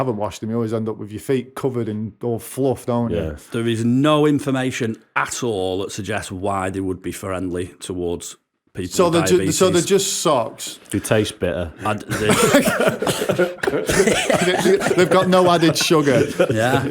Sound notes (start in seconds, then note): 11.9 laughter